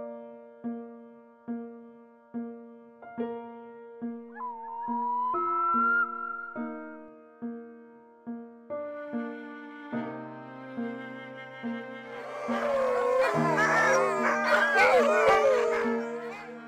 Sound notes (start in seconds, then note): 4.4 loon call; 12.0 sled dogs howling